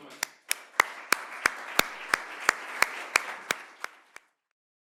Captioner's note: audience applauding